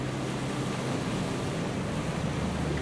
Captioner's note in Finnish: merituuli puhaltaa